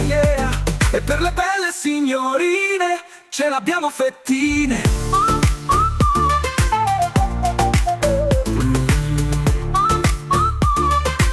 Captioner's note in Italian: mmmm